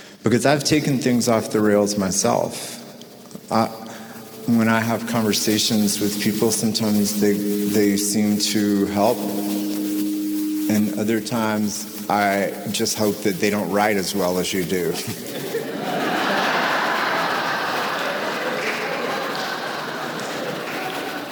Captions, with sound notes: because I've taken things off the rails myself. When I have conversations with people sometimes, they seem to help, and other times, I just hope that they don't write as well as you do. (audience laughs)